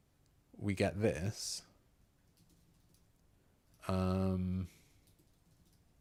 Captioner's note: silence